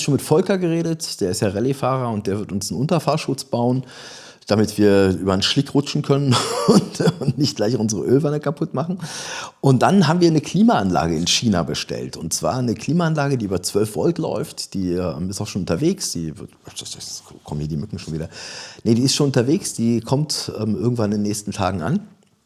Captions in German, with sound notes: mit Volker geredet, der ist ja Rally Fahrer und der wird uns einen Unterfahrschutz bauen, damit wir über einen Schlick rutschen können [gelächter] und und nicht gleich unsere Ölwanne kaputt machen. Und dann haben wir eine Klimaanlage in China bestellt und zwar eine Klimaanlage, die über 12 Volt läuft. Die ist auch schon unterwegs. Die wird kommen hier die Mücken schon wieder. Nee, die ist schon unterwegs. Die kommt ähm irgendwann in den nächsten Tagen an